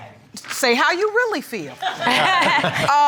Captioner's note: laughing